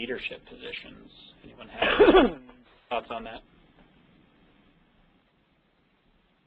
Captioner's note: coughing